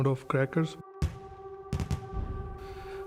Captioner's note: gunshots popping